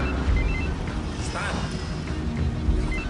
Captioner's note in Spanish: Suena el celular